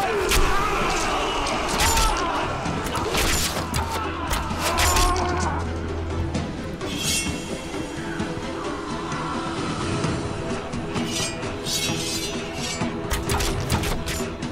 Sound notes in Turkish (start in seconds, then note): 0.0 Bağrışmalar; 0.2 Ok sesleri; 6.9 Kılış sesi; 7.7 Kılıç sesleri; 7.7 Ok sesleri